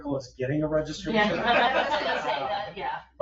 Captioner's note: people laugh